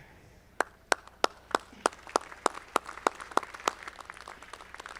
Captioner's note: audience clapping